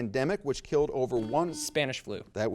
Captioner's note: buzzer beeps